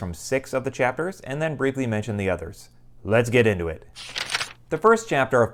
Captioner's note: page turning